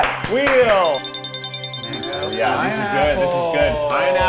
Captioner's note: dinging